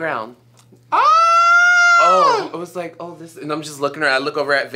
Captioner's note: Eureka screams